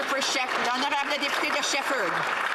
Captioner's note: some Applause